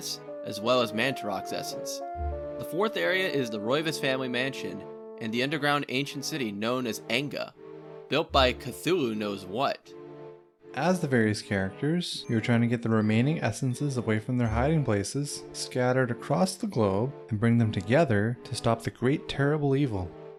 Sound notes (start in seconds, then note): none